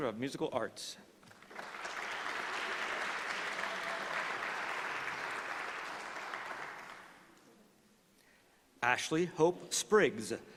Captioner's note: applause